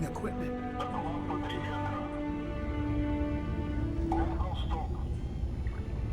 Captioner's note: man speaking in foreign language